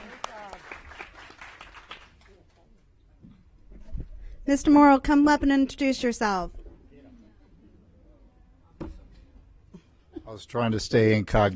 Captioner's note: applause